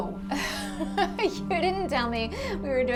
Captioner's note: laughing